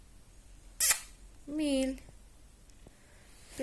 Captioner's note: loud kiss